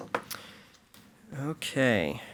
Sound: gavel pounds

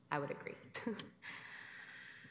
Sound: chuckles

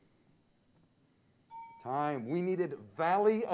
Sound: bell pings

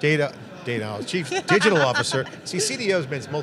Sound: laughing

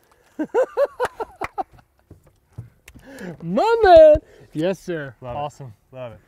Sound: laughs

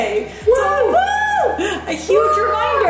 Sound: both cheering

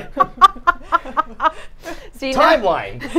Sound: both laughing

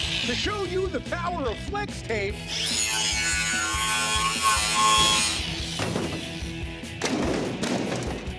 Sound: saw cutting

